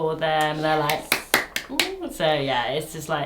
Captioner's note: claps hands